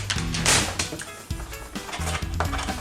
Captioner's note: table smack